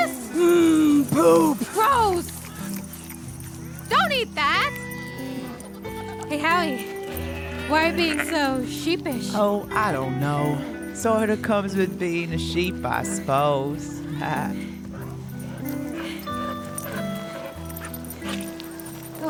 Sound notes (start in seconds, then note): 2.0 lips smacking; 4.0 sheep bleating; 14.0 chuckles; 14.8 wistful guitar music; 15.1 Amy panting